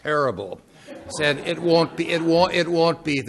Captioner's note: laughing